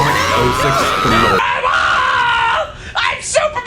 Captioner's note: ARIN HANSON screaming